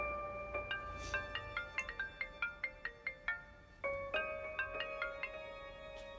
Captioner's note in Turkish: Telefon çalıyor; Telefon ısrarla çalıyor